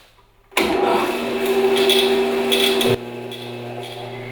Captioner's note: saw humming